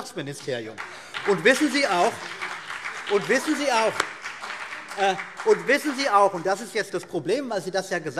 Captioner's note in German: Beifall BÜNDNIS 90/DIE GRÜNEN und vereinzelt CDU